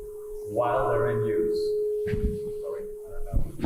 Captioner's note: microphone feedback